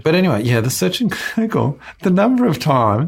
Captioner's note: laughs